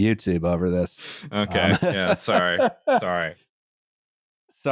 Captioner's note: laughs